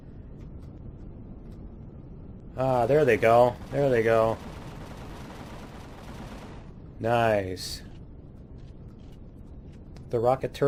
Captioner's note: cannons firing